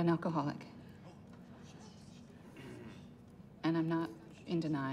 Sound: group murmurs

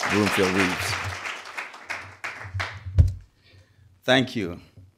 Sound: crowd applauds

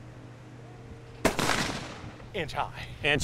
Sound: gun shot

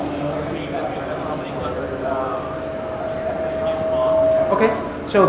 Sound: audience speaks softly

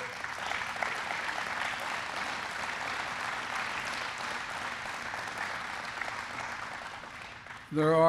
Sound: applause

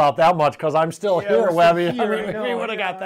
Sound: laughs

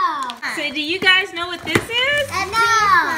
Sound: voiceover

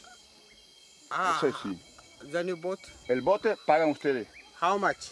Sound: Spanish spoken audio

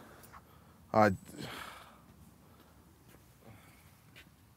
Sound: JJ sighs

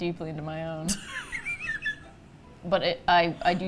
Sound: wheeze laughs

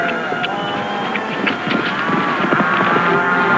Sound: hoof beats

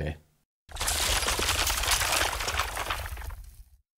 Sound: logo shattering

